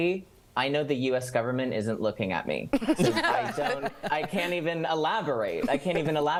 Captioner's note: laughter